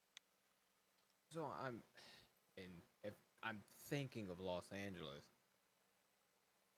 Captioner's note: sigh